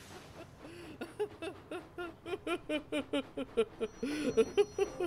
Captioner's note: whiff laughs